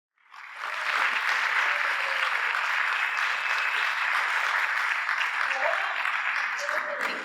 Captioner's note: applause